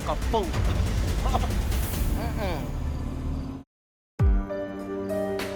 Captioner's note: scoffs